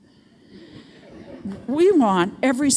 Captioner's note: audience chuckles